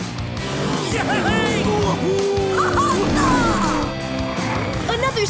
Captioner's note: cheering